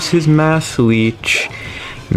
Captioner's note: inhales Oxygen